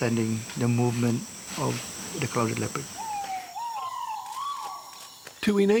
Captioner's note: bird calls